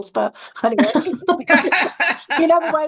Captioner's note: laughter